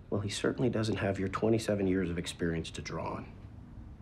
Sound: none

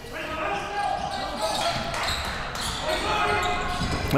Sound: crowd cheering

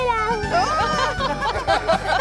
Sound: laughing

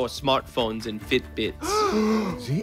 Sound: gasps

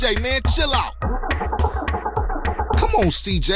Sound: attempting to start car's engine

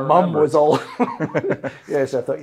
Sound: laughing

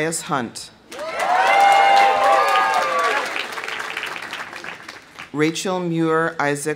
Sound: audience cheering; audience applauding

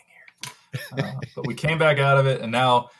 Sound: laughs

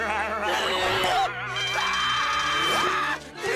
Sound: screaming

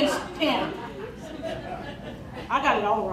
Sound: crowd laughing

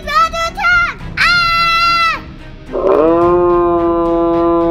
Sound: screams

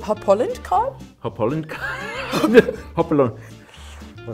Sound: laughs

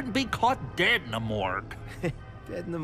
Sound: chuckles

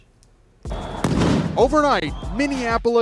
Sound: gun bangs

